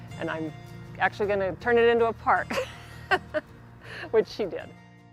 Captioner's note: laughing